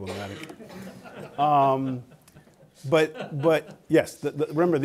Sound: laughter

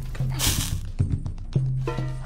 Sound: fire sizzles out

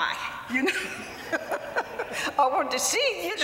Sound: laughter

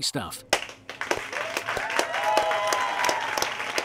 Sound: applause

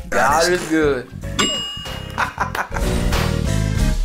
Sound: bell sound; upbeat music

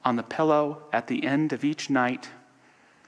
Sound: none

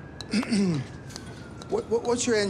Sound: Benny clears throat

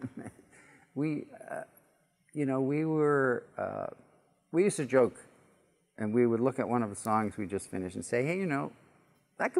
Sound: chuckle

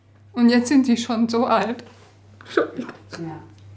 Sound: she sobs

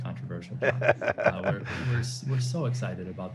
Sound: laughing

